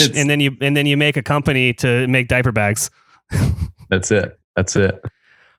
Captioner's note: laughs; laughs